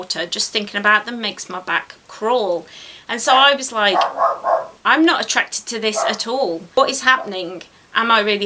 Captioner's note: dog barks